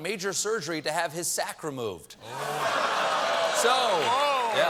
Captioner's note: laughter